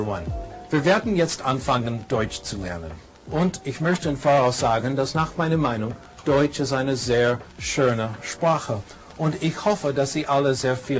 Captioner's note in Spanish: habla en alemán